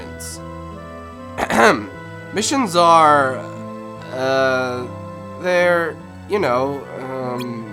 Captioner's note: clears Throat